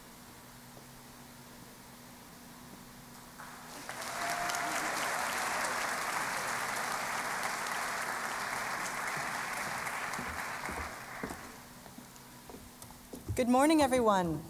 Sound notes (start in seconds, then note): 3.4 applause